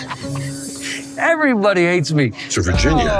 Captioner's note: laughing